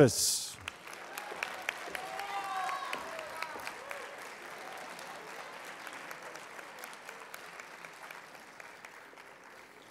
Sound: applause

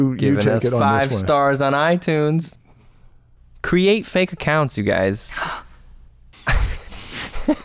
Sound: chuckles

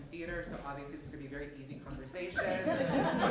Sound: laughter

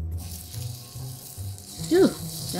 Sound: artichokes sizzling

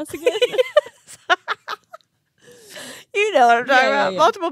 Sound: both laughing

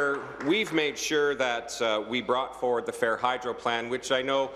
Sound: applause

